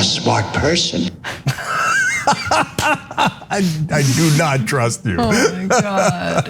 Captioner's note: laugh